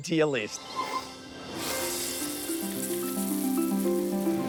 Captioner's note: water sprays